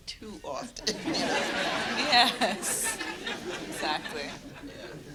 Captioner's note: audience laughter